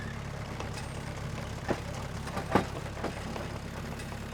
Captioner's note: engine running calmly